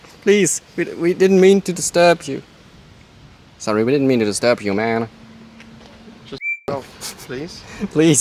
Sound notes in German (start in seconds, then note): 3.4 US-Accent